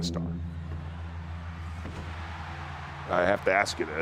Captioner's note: crowd cheers